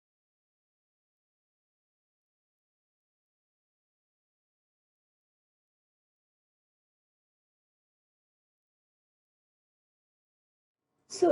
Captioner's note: silence